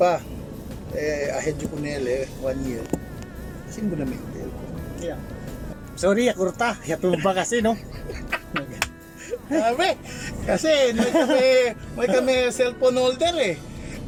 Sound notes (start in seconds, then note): 7.6 laughter